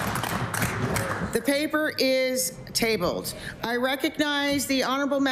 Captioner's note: applause